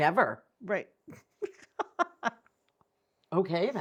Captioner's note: laughing